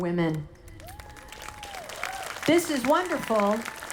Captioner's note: audience applauding